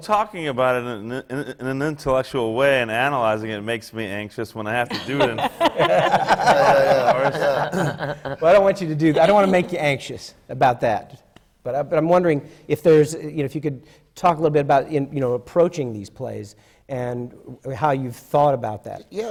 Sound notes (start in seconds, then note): 0.0 laughs; 4.9 laughter from the panel